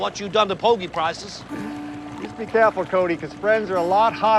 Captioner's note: chuckling